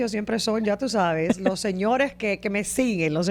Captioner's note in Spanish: Risas